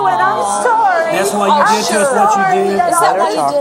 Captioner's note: audience chattering